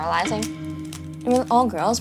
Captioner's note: Rubiks Cube shuffling